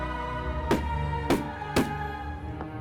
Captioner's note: gun shots